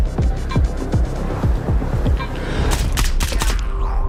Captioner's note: strained voice; meter beeping rapidly